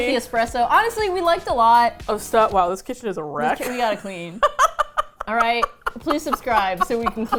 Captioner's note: laughs